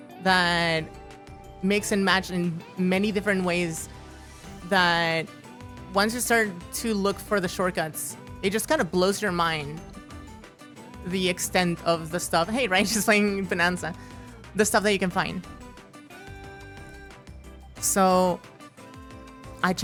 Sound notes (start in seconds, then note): none